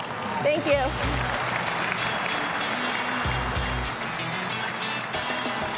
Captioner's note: applause